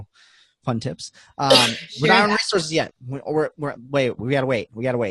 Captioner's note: coughing